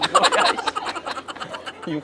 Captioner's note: laughing